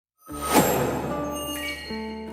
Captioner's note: bright music; whoosh